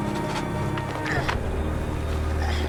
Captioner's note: grunting